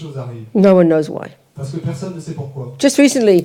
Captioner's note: French